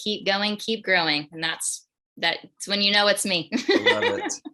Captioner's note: laughs